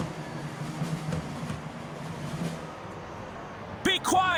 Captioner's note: crowd booing